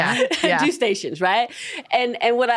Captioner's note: laughs